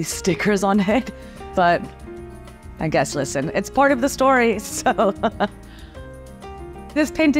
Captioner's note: laughs